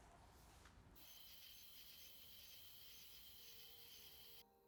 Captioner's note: crickets chirping